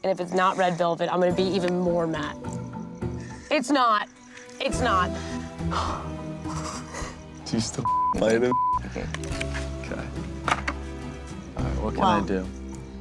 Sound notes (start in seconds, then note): 5.1 sighs